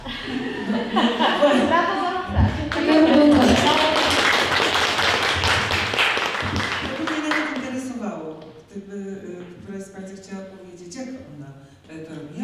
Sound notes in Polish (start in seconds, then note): 2.6 oklaski